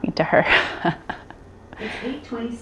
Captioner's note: laughs